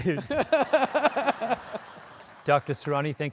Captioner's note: laughing